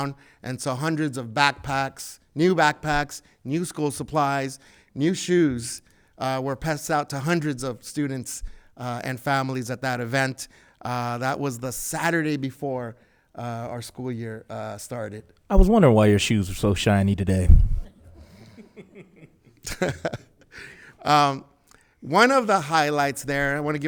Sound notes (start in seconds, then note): 17.9 laughs; 18.2 member laughs